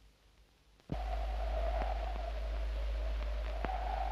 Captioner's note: wind howls